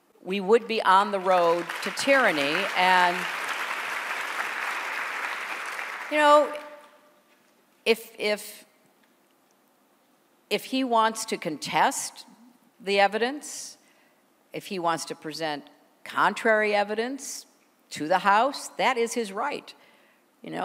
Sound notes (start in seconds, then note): 4.4 applause